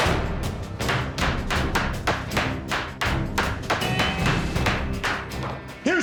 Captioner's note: gunfire; bangs gavel